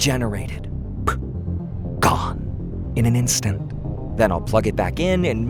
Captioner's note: poof